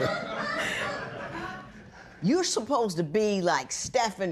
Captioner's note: laughter